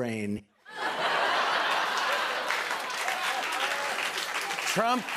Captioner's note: laughter and applause